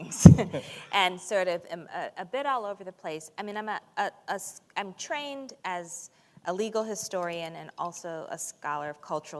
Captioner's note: chuckle